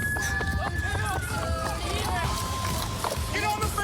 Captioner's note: shouting